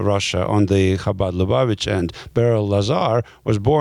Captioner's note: speaking in a foreign language